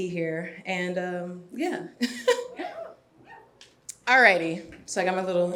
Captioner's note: laughs